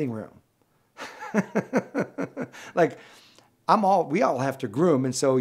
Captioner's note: laughs